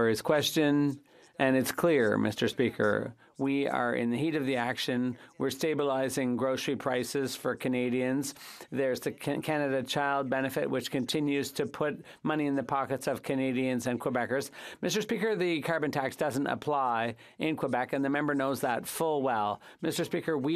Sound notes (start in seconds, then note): 2.3 speaking French